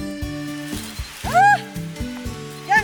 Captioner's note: screams